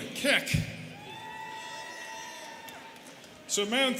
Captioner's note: students cheering